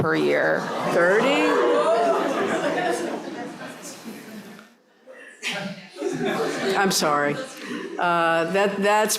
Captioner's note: laughter